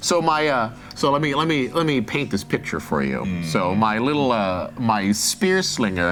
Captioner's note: none